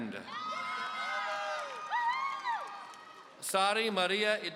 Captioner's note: audience cheering